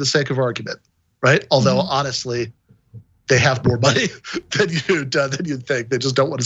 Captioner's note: laugh